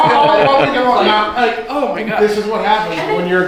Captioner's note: laughing